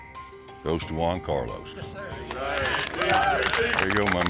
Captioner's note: cheers, clapping